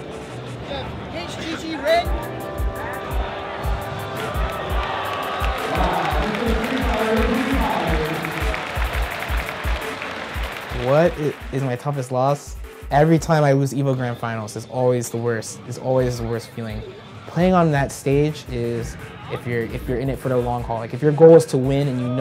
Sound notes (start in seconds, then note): 7.5 applause